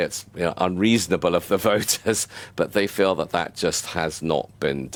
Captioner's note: chuckles